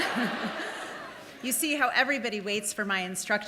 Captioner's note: laughs; audience laughing